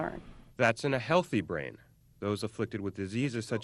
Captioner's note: voiceover